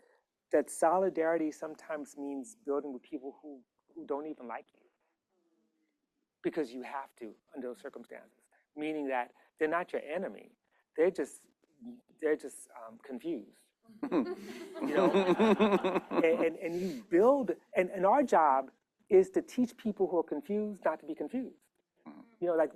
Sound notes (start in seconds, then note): 14.0 laughter